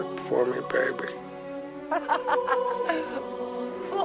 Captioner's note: althea laughs